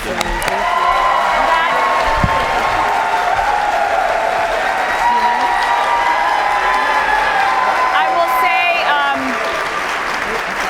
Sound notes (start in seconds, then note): 2.9 applause